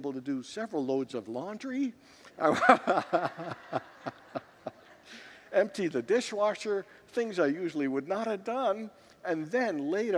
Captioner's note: laughs with congregants